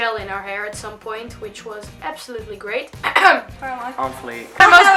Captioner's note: coughs